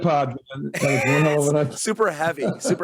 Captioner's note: both laugh